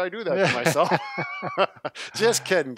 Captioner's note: laughing